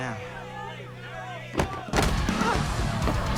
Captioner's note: book thudding to floor; dramatic melodic music